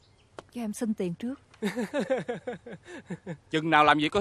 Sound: laughing

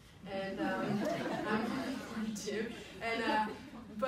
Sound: people laugh

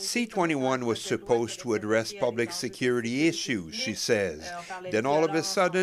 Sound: speaking french

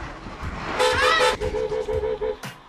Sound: car horn beeps

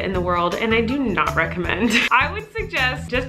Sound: laughs

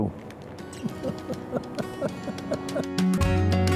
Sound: laughter

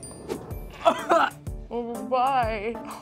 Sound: coughing

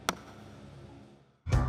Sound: hammering wood

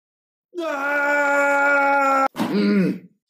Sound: yelling

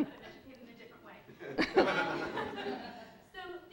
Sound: laugh

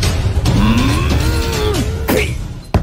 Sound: Gruñe

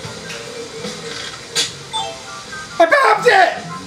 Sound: slingshot snaps; chime as balloon disappears

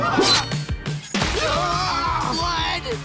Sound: screaming

